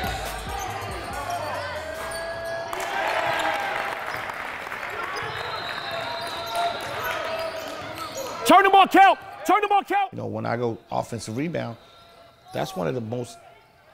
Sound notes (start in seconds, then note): 0.2 overlapping chattering; 2.7 audience applauds; 2.9 overlapping chattering